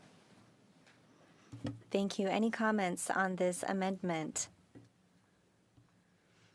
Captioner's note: speaking French